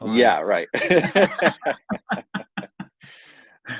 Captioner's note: laughter